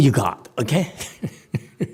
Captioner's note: laughs